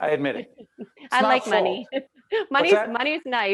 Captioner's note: laughing